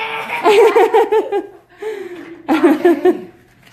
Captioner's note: laughing